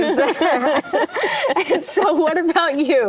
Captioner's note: laugh